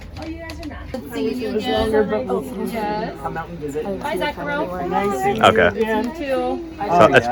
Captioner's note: exchanging goodbyes